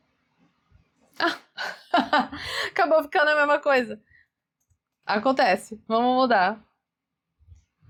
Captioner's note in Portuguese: risadas